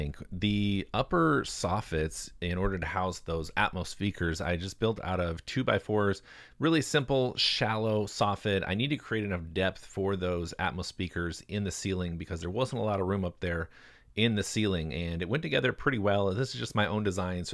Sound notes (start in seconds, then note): none